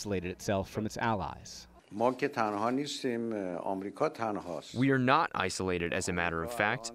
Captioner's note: through translator